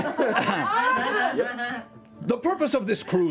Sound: laughter

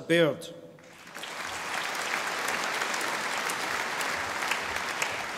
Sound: audience applauding

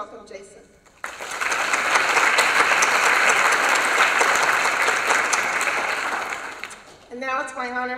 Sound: applause

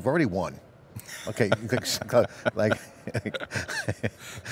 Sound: laughs

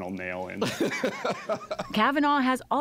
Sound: laughter

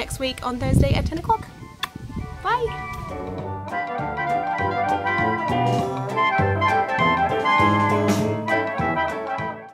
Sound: kiss

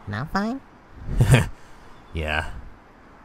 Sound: laughs

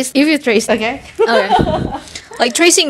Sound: laughs

